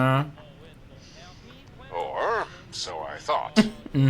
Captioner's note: laughs